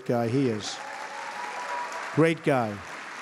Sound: applause

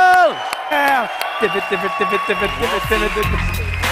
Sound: imitating record scratching

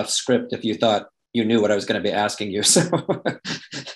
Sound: laughs

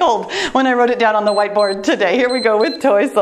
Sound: timer beeps

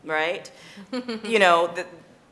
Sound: giggles

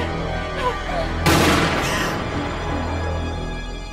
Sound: gasps; gunshot

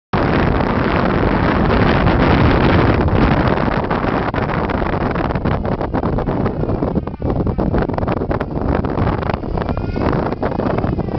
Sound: wind

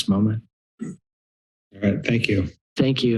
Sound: silence

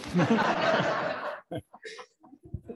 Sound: laughter

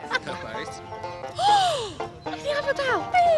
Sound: gasps

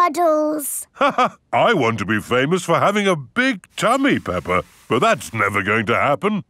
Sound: laughs

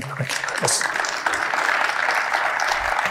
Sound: applause

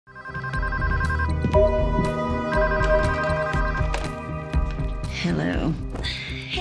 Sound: telephone ringing

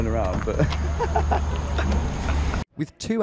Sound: both laugh

